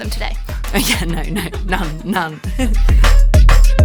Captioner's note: chuckles; bright music